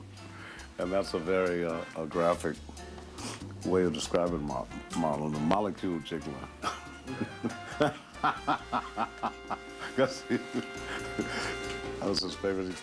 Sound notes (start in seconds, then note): 6.6 laughs